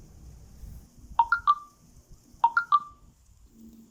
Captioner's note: message alert tone